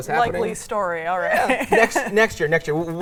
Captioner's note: laughs